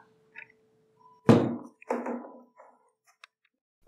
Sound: swinging door thunks

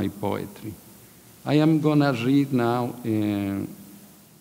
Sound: speaking in a foreign language

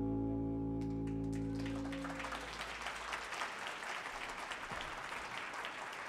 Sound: audience cheers and applauds

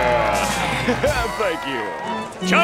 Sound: chuckling

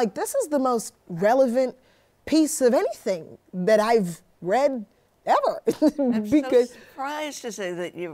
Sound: laughs

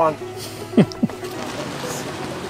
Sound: laughing

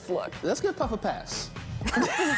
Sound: laughter

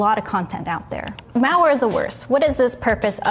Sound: mouse clicking

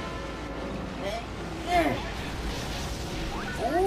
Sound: explosions

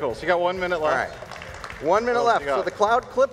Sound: audience applauds

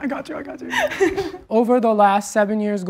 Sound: laughing

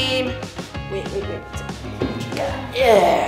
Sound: groans

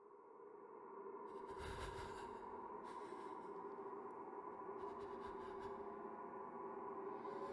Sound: echoey wind & heavy breathing sound; creepy slow violin music

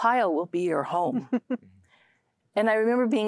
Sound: giggling

